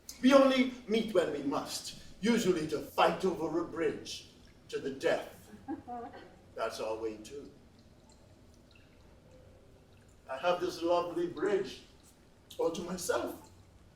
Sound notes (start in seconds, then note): 5.4 laughs